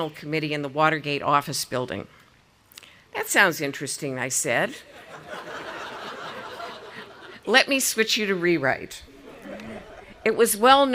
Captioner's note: audience laughing